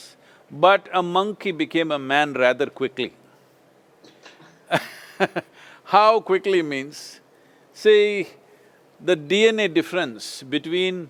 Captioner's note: both laugh